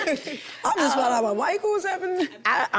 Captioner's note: group laughing